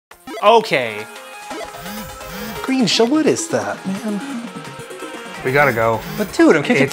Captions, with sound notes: Okay! [video game noises] Green Shell? What is that, man? We gotta go. But dude I'm kicking your...